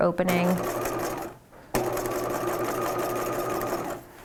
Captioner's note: machine whirring